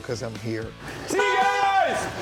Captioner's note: horn honking